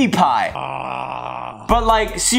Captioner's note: groaning